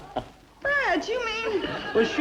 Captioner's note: laughs